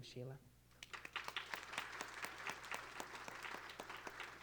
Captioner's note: applause